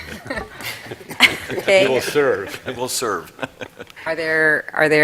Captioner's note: laughter